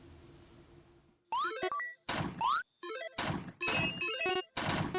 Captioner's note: video game beeping